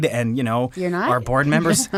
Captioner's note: laughs